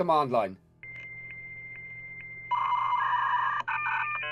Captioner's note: beeping